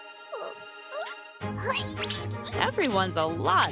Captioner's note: caterpillar noises